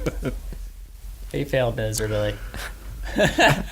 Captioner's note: laughs